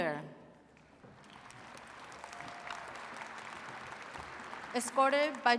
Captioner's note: attendees cheering and clapping